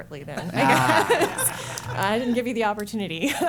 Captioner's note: laughter